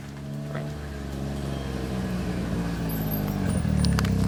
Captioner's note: engine rumbling